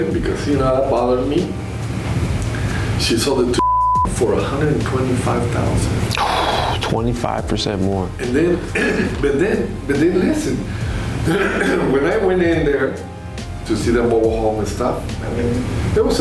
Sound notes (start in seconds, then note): 3.6 beep; 6.1 sighs